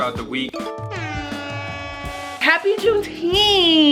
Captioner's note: air horn blasting